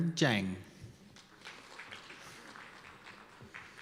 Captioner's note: applause